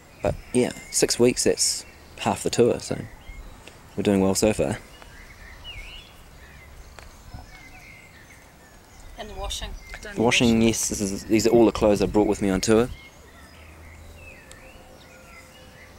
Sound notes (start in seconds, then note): 5.7 birds twitter